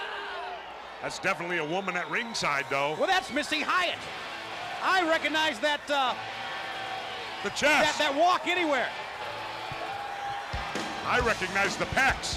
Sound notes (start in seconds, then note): 4.3 crowd cheering